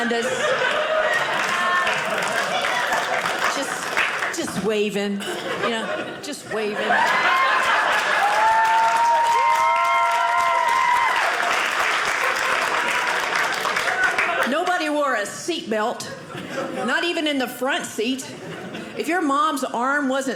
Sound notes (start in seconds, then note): 0.6 audience clapping; 6.8 audience laughing; 9.7 audience cheering